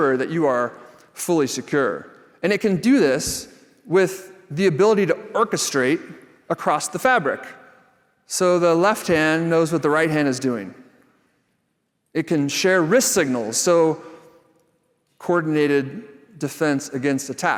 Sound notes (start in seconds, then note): none